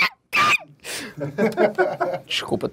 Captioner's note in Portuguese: risadas